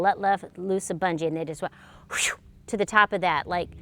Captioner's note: whooshes